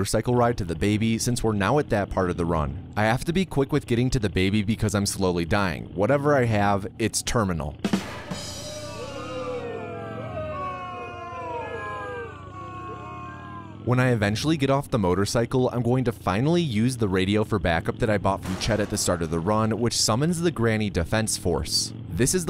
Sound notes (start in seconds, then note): 7.9 drum rimshot; 8.0 crowd booing